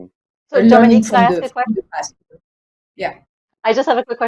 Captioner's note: group chatter